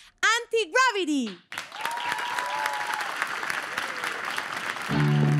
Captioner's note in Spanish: Ovación